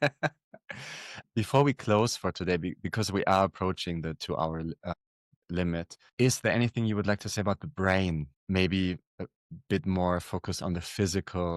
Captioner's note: laughter